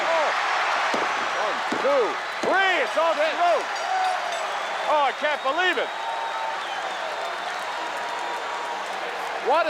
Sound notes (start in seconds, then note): 3.7 bell rings; 6.2 audience cheers